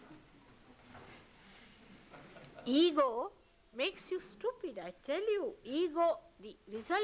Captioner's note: laughter